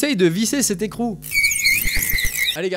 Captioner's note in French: cris stridents